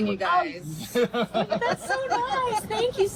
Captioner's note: everyone laughs